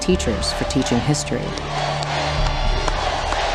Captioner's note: crowd